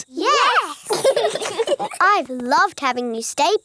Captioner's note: laugh